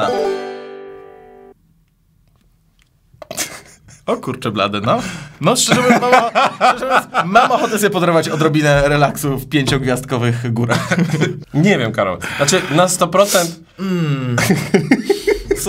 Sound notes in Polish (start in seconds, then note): 3.3 śmiech; 5.6 nerwowy śmiech; 14.0 śmiech